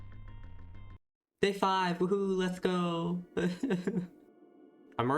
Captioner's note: sad laugh